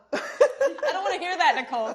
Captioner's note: laughter